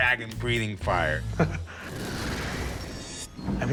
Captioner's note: chuckles